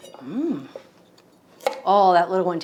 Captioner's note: knife slices